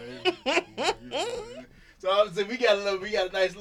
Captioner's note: laughing